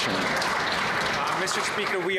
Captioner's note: some Applause